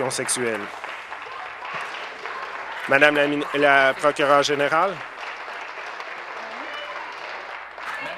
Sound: applause

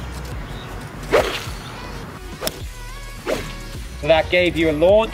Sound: golf club whooshes

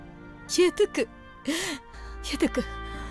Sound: Nitya gasps

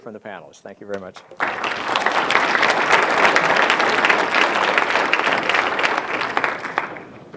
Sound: audience applauds

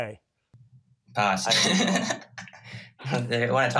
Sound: laughing

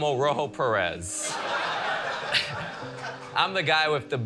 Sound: laughter

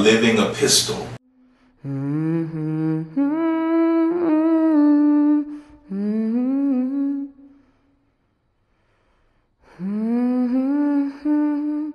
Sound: humming

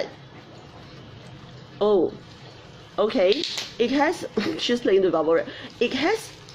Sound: bubble wrap pops

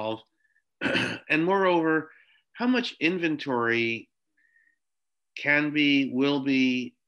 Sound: cough

